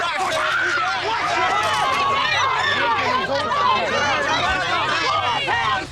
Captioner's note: commotion